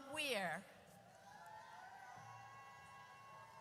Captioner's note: audience cheers